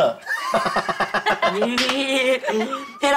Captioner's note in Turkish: Gülme sesi